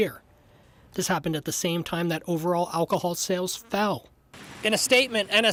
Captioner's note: audio interference